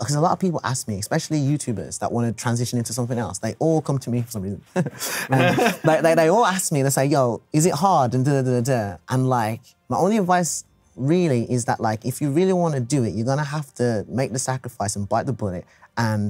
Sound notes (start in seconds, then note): 4.7 laughs; 4.8 chuckles